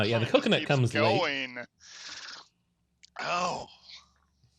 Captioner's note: shivers in disgust